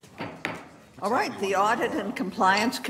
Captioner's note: object clattering